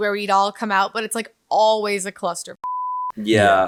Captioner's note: beep